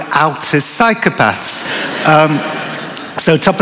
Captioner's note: laughter